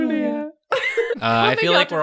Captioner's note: laughing